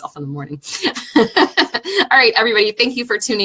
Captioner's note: laughing